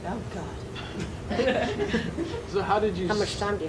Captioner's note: audience laughs